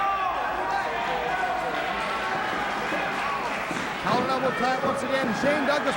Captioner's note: crowd cheering; crowd chatter